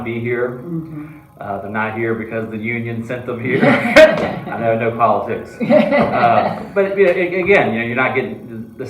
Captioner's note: laughs